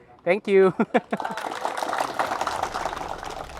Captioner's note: applauds